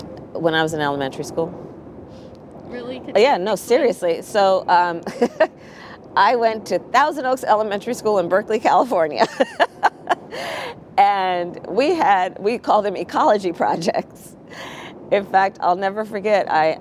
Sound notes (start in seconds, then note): 9.2 laughs